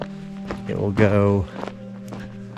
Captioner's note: footsteps crunching